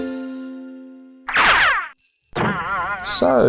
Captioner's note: cartoon zooming